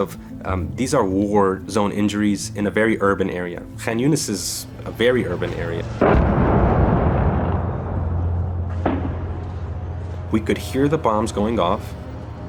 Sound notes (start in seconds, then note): 5.3 bomb blast; 8.7 gunfire